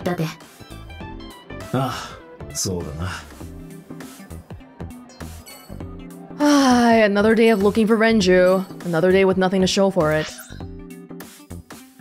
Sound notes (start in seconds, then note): 6.4 sighs